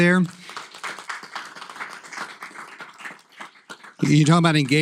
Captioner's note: applause